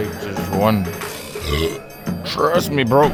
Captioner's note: burps